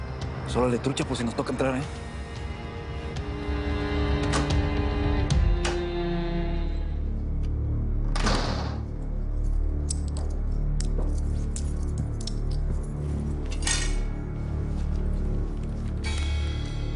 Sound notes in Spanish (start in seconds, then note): 8.1 ruido al entrar; 13.4 sonido de las llaves